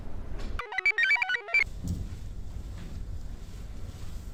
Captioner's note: computer chirps